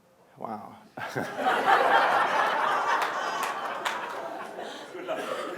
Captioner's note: laughter in audience